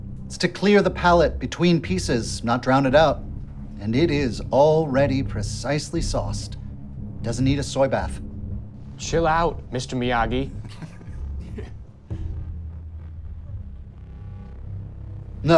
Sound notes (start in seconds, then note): 10.5 man on phone chuckles; 12.4 deep tense music